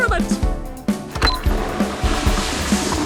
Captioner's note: flushing sound